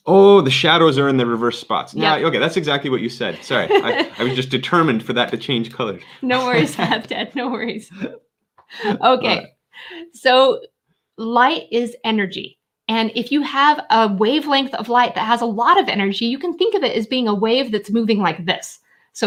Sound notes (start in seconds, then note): 3.3 laughing; 8.4 laughing